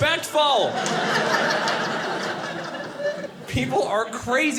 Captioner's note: audience laughing